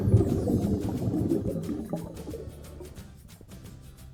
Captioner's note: water gurgles